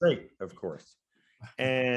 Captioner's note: speaking faintly